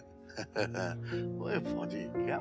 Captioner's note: Laughs